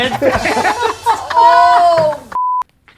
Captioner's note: group laughs